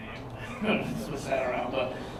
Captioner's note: laughter